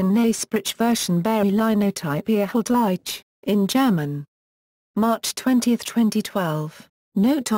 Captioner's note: in German